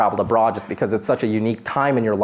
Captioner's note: none